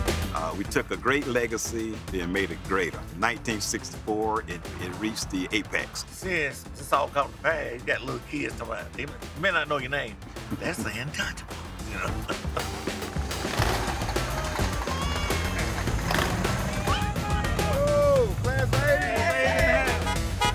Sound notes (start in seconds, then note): 13.8 engine revving